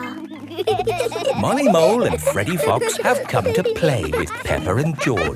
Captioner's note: laughing